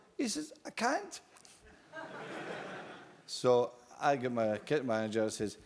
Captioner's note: laugh